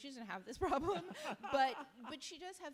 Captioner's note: laugh